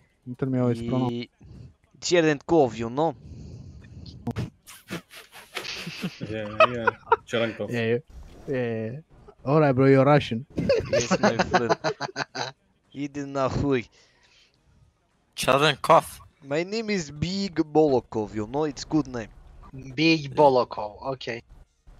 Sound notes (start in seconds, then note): 4.7 laughter; 10.5 laughter; 12.6 Swears in Russian